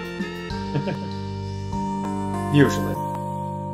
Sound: chuckles

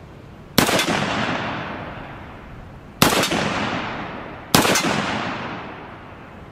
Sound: gun fires

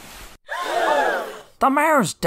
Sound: all gasp

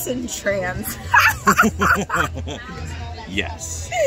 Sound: laughing

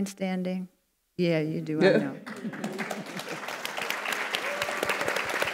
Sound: audience applauds

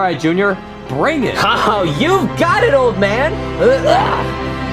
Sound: laughs; dramatic music

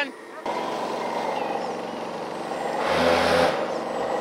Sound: engine roaring

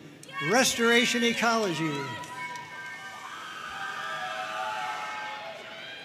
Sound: audience cheering and applauding

